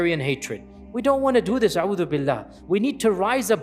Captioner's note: Arabic